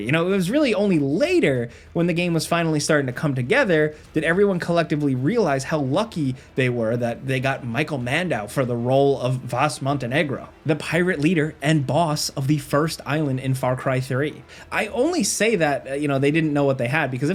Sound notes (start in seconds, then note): none